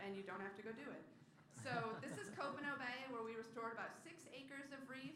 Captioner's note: laughter